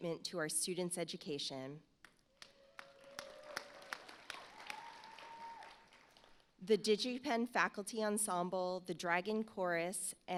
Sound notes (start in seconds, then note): 2.3 audience applauds